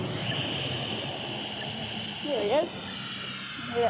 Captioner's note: static followed by beeping